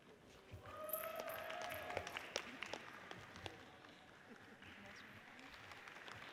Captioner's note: audience cheers and applauds